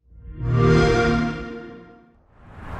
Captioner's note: xbox sound